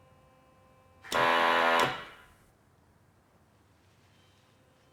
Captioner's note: machine blaring